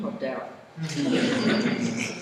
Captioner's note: laughter